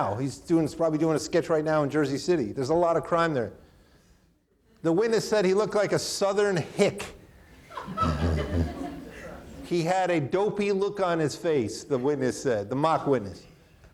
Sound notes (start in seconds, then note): 7.5 chuckles; 7.5 audience laughing